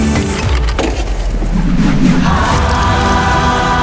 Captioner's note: whooshing